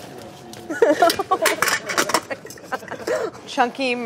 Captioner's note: laughing